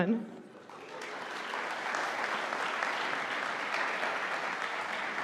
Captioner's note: audience applauding